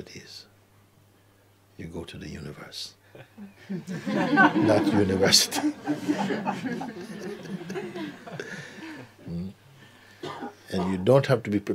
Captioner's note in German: Lachen